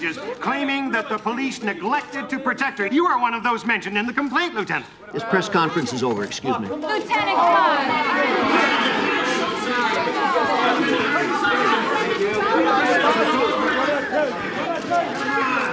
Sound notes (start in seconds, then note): 8.6 overlapping chatter